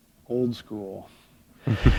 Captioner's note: chuckle